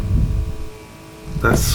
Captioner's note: footsteps